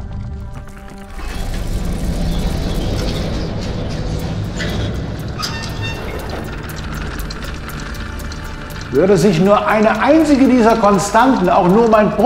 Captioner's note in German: Uhrwerk tickt